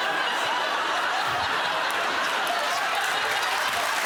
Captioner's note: laughter